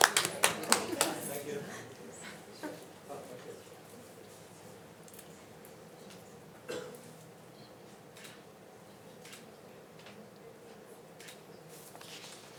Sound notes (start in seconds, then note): 8.3 shutter clicks